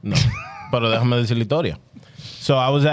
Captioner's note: speaking In Foreign Language